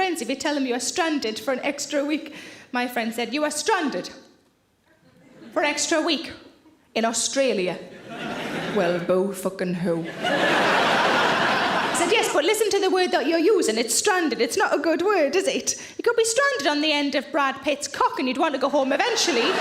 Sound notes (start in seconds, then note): 10.0 audience laughs